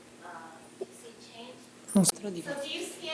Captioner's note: speaking italian